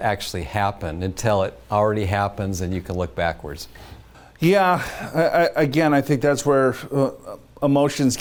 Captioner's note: sighs